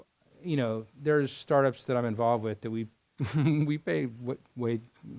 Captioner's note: chuckles